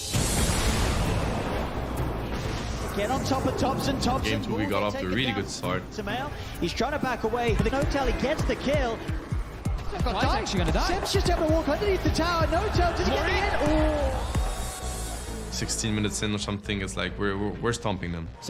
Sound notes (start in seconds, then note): 0.2 somber music playing; 8.0 crowd cheering